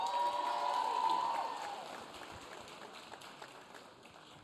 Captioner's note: audience cheering